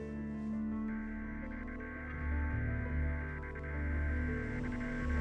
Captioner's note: buzzing sound